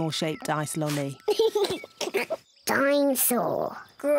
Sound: giggles excitedly

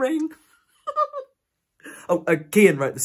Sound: giggles

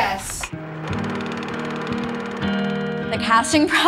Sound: movie projector whirring; mellow music

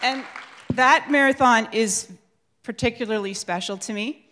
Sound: crowd applauds

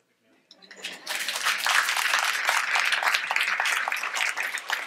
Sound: audience applauds

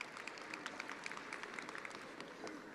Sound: attendees applauding

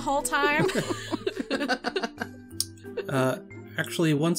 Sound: all laugh

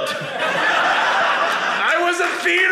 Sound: audience laughing

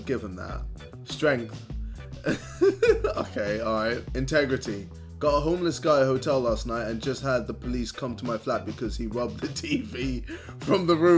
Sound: laughs

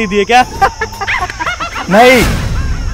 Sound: laughing

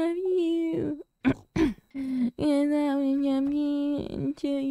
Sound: clears throat

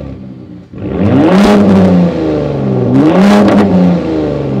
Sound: exhaust roaring

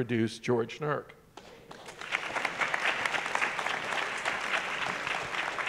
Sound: audience applauding

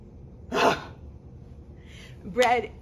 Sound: breathes loudly

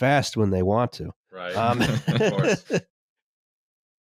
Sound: laughter

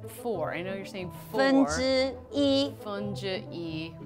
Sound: speaks mandarin

